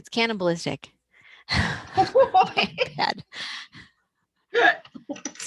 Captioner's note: laughter